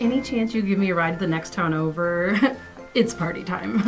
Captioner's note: chuckles